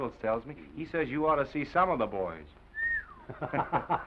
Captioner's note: whistles; Oliver laughs